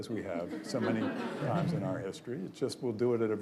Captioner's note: audience laughs